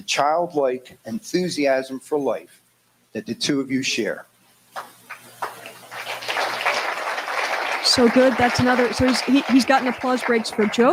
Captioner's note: applause